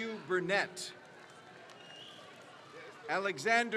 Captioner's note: crowd cheers